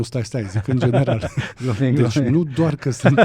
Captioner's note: laughter